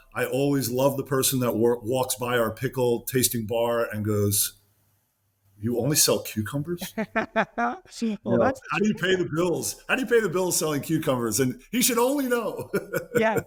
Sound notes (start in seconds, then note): 6.8 laughs; 12.3 chuckles